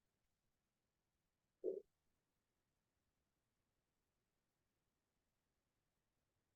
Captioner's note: silence